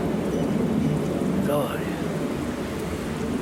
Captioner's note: noise of aeroplanes